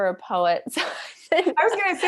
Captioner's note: chuckles